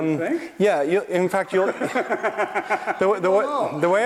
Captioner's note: laughter